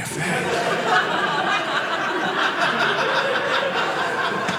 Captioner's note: audience laughing